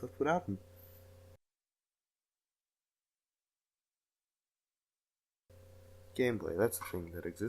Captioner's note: silence